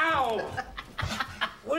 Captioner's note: laughs